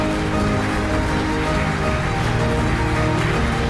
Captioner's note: thunderous applause